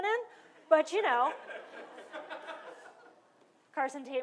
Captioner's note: laughter